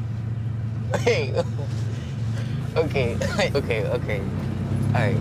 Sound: chuckles

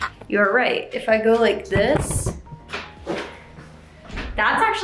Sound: camera moving

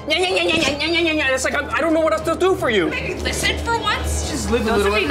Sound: arguing continues

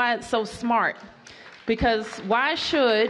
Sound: applause

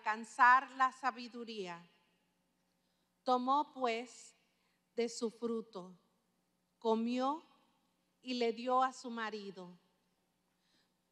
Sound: speaking spanish

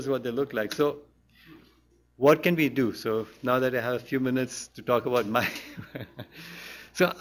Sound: laughs

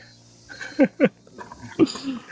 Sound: laugh

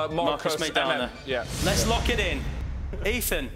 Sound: whooshing

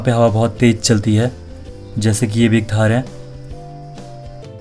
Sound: in Garhwali language

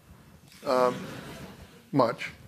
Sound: laughter

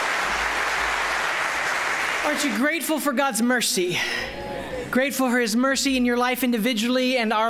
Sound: applause

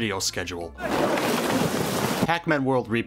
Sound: nonspecific eastern european shouting, building noises

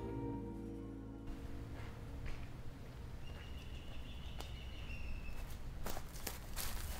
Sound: birds chirping

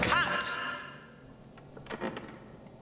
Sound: silence

